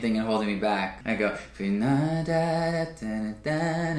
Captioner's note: vocalizes